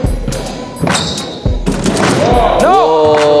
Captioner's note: dunk sound